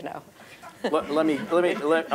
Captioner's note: laugh